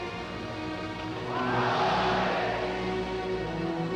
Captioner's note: shouts of olé!